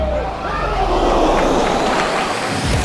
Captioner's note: crowd gasps